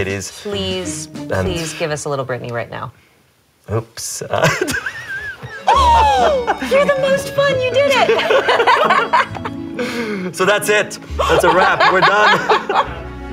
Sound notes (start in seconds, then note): 5.2 Anne inhales in amazement; 7.8 both laughing; 11.2 Anne laughing